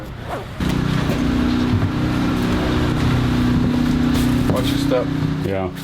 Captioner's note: sound of generator